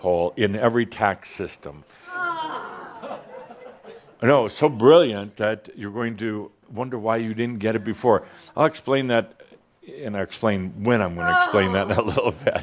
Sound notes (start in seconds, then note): 3.1 a few chuckles